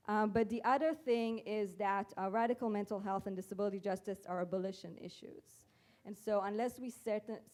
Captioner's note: none